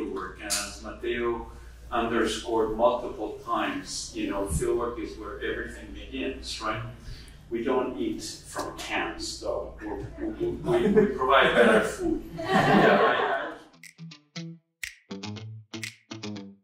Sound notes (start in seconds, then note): 12.3 audience laughing; 14.8 cheerful music